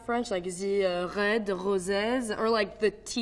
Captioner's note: with French accent